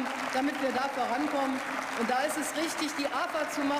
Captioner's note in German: Beifall